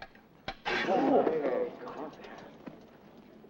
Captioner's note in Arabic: الحشد يلهث